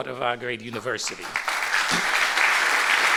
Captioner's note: applause